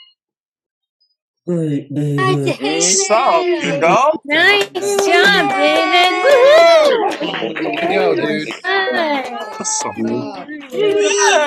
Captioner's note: applause